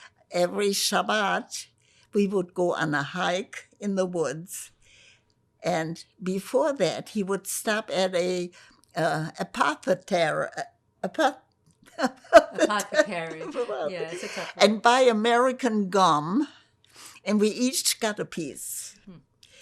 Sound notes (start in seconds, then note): 12.0 laughing